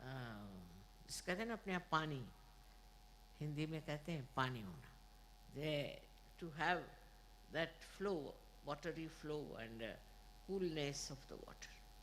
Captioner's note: mother speeks Hindi